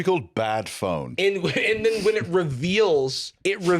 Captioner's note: laughs